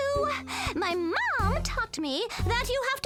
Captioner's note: none